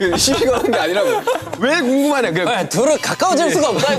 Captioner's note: haha